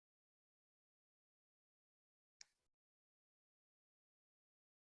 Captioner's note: silent